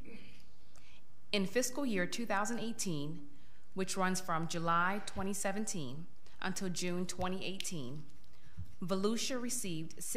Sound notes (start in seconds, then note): none